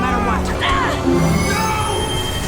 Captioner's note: agh!; exclaims; agh!